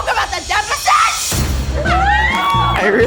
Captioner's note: crew members cheer behind camera